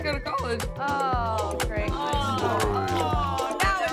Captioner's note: women groaning